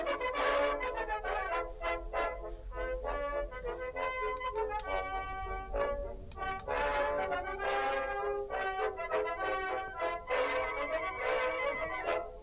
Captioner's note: needles clicking